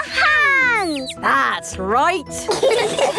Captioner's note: all laughing